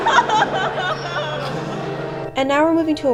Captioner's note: crying